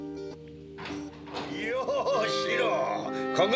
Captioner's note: sound of door opening